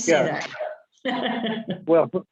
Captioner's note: laughs